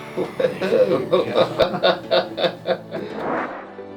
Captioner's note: laughing